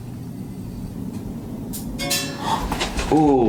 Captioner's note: jingling